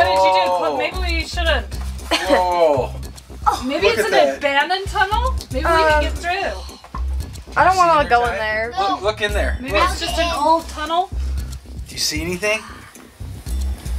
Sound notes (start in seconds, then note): 2.5 dad groans